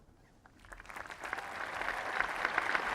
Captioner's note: applause